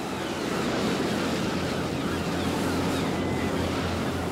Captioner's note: gulls cawing